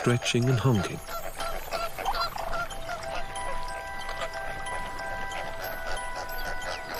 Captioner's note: squawking